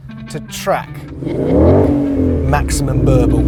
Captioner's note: car revs